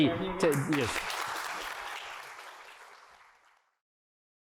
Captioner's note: applause